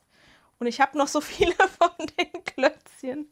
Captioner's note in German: Gelächter